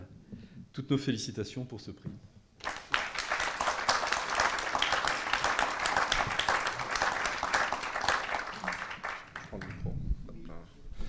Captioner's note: applause